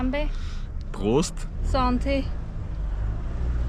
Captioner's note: German